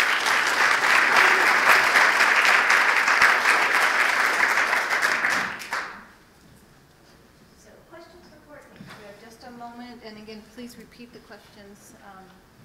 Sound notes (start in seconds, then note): 4.1 applause